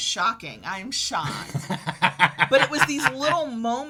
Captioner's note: laughs